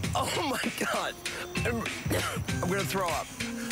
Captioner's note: coughs